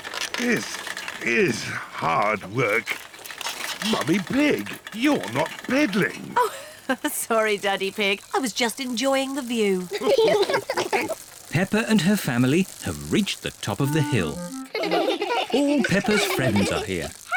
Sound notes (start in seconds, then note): 5.9 giggles; 9.9 all laugh